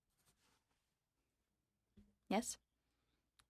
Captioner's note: speaking French